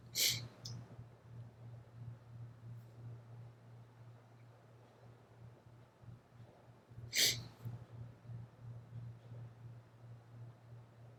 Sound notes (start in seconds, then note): 0.2 sniffling; 7.2 sniffling